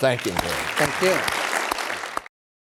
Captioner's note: everyone applauding